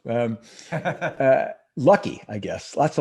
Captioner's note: laughs